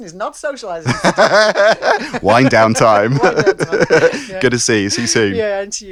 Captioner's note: laughs